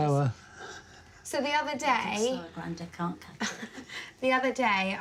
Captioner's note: chuckling